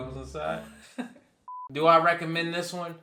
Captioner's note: laughs